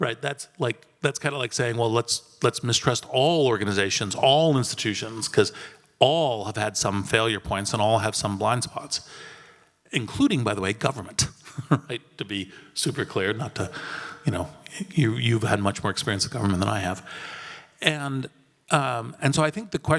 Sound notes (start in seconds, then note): 11.4 laugh